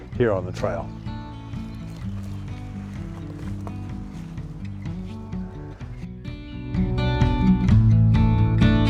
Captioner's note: birds chirping